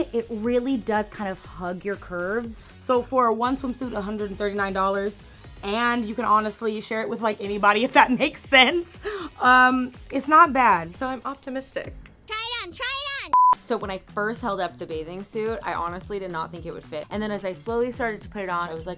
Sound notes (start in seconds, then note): 13.3 audio beeping